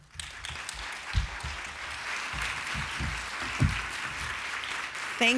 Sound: applause

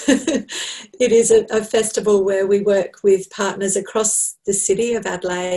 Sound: laughs

